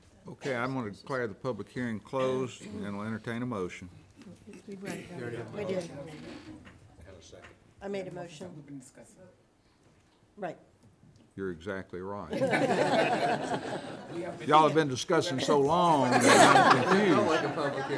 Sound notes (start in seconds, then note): 12.4 everyone laughing